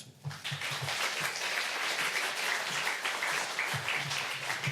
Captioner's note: applause